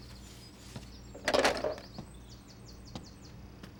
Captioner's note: hangs up telephone